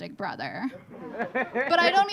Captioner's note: audience laughing